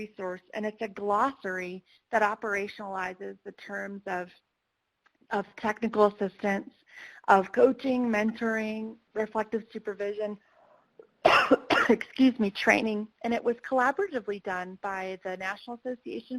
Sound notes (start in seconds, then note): 11.2 coughs